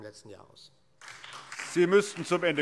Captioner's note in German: Beifall SPD